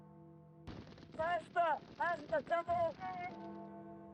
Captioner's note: shouting